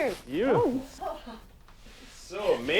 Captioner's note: laughs